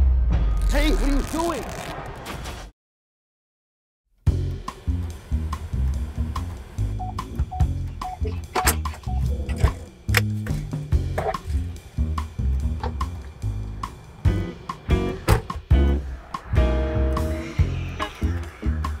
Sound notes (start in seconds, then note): 0.0 tense music; 0.6 fabric rips; 4.5 upbeat music; 6.8 car beeps; 9.1 upbeat music